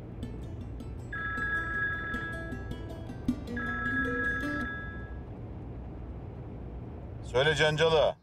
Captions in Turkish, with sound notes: [Telefon Çalıyor] Söyle Cangal Ağa.